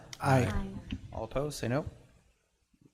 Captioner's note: in Unison